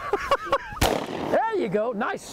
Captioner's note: laughing; gun shot firing